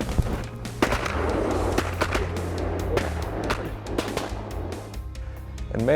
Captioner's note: gun shots